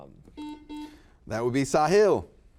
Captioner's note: buzzer buzzes